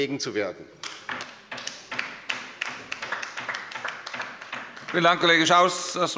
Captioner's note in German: Beifall bei der LINKEN